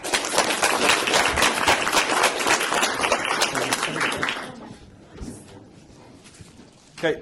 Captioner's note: applause